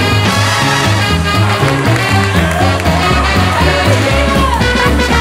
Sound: applause

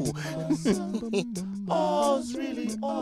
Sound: chuckles

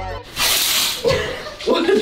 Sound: shower curtain opens; laughs

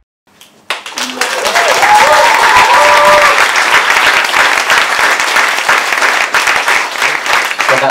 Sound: cheering and applause

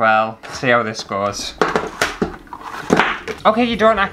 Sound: clattering

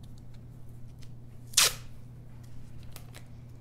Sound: tape ripping

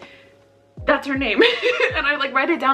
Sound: laughs

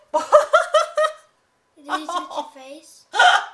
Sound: laughs

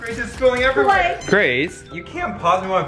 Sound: machine beeps

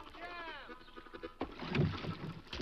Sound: oars thudding; water splashes

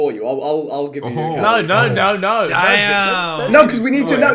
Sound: all laughing

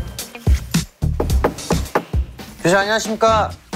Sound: knock, knock, knock, knock

